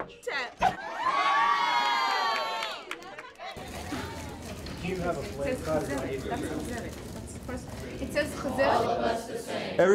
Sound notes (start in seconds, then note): 3.6 all cheer; 6.2 indistinct chatter